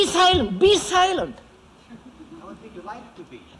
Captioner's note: laughter